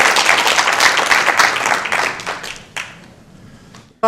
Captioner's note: applause